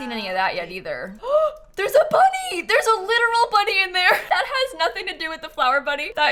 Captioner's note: gasps